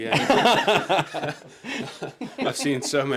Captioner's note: all laugh